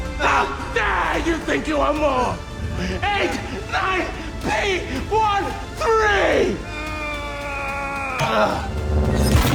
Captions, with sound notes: How dare you think you are more, 89P13? [straining, grunts]